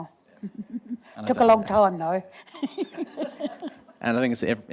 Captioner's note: laughs